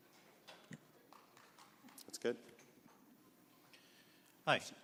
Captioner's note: applause